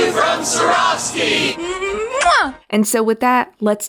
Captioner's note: Freema Agymen audibly blowing a kiss to the camera